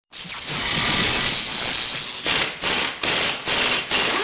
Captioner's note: drilling sounds